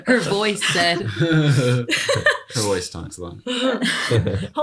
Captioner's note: laughter